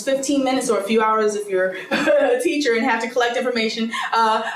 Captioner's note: laughs